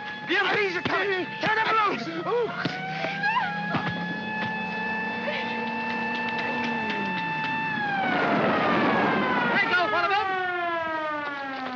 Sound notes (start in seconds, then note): 2.5 Gerde yelps; 2.5 thump; 4.3 siren wails & jeep engine whines; 8.3 tires screech